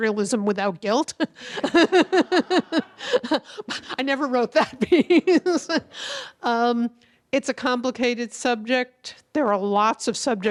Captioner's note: laughing